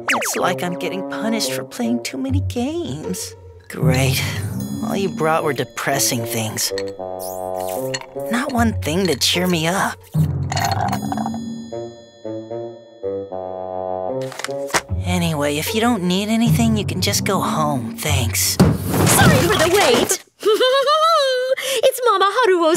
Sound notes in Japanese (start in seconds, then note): 10.4 ストローの音; 18.6 ドン